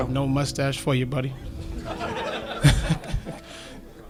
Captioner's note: laughter